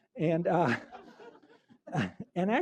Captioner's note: laughter